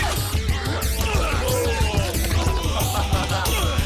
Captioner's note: screaming